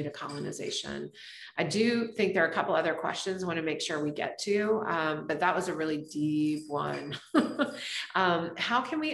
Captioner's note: laughs